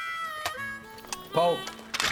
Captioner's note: clicking sound; rifle clicks